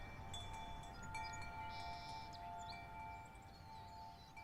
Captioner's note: wind chimes dings